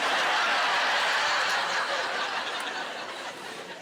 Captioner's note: laughing